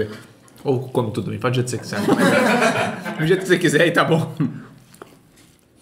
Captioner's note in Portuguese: risos